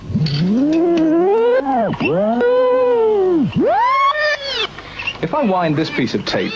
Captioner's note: tape whirs and whines backwards